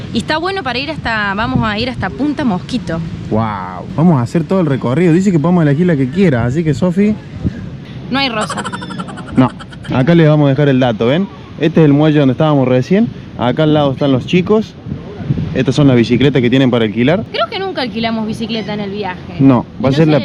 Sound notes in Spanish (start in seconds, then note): 8.4 risas